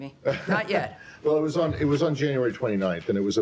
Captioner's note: laughter